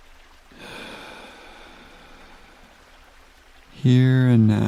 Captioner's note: inhales deeply; exhales slowly